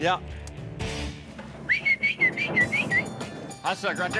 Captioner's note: whistling